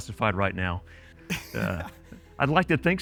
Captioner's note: chuckles